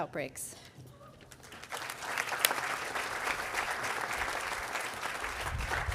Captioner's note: audience applauding